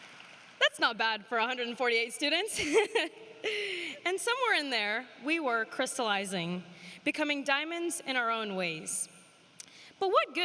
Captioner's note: applause